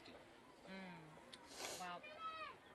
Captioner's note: sniffles